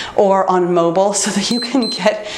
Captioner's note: timer beeps